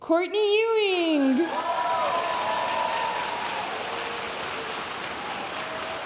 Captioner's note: audience cheering and applauding